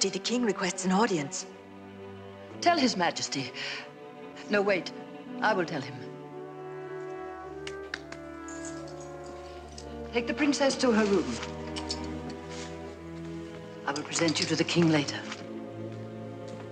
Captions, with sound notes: - Your Majesty, the king requests an audience. - Tell His Majesty, no, wait. I Will tell him. (hands clapping) Take the princess to her room. I will present you to the king later.